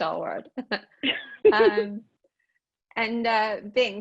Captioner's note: laughing